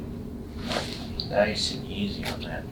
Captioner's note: joint cracks